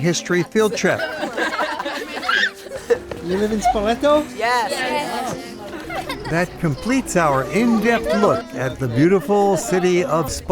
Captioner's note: kids laugh